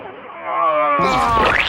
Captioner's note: ejacuation sound